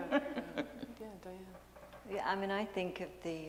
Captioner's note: laughter